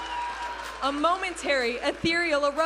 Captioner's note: audience applauding and cheering